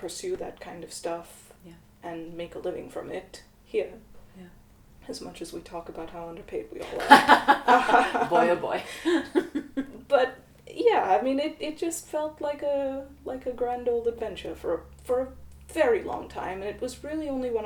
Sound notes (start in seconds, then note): 6.8 laughter